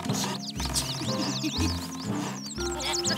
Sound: giggles; birds chirp

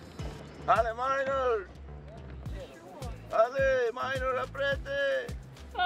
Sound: man speaking in foreign language

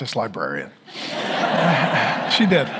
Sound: congregation laughing

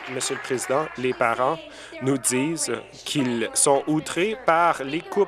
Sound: applause

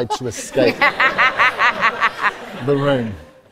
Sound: audience, susan and interviewer laugh

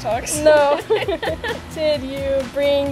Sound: laughing

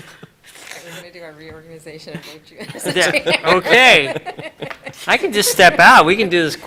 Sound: laughter

